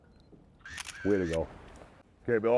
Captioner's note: camera shutter clicks